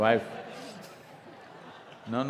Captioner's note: laughter